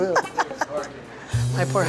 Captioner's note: laughs